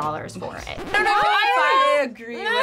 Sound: record scratches

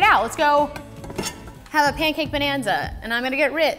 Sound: metal scraping

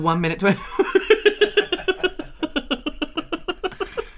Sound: laughing

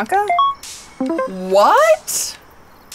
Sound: cell beeps

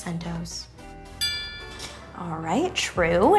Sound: bell chime

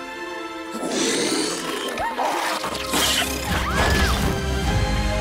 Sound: creature snarls

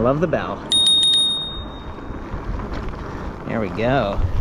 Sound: bell ringing

